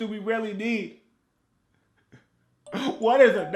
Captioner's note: Jay crying